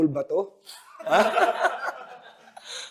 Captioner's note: everyone laughs